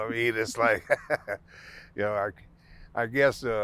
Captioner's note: laughing